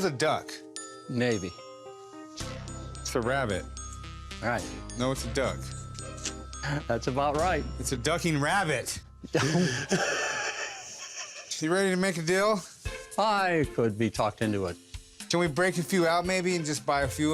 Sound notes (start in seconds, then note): 10.9 laughter